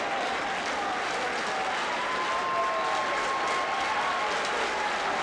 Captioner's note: audience applauding